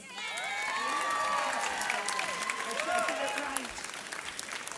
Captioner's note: audience cheers